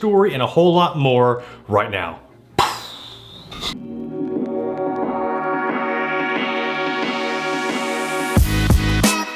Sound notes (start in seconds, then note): 2.6 blowing air; 3.8 downbeat techno music